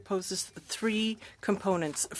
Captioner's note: speaking french